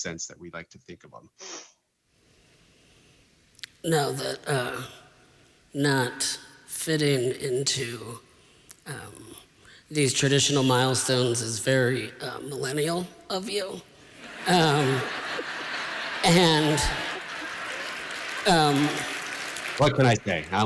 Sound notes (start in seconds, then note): 14.2 laughter; 17.6 applause